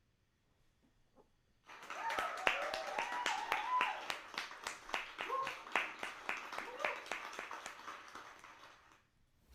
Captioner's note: applause and cheers